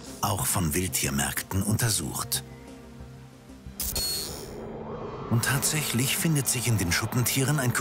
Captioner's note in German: Soundeffekt